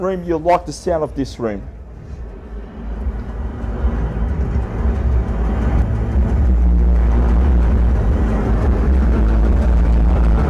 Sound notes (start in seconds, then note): 2.3 plane engines running